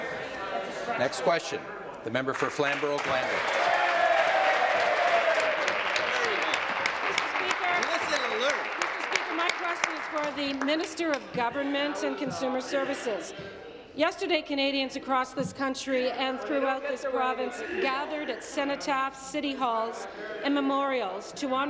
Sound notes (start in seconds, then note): 8.6 applause